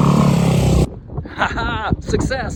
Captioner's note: wind sounds